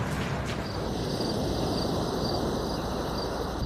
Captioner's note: crickets chirping